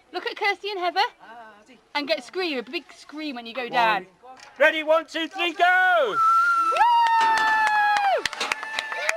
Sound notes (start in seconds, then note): 6.1 whistling, cheering, applause